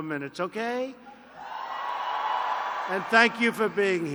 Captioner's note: applause